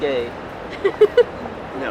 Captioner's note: laughs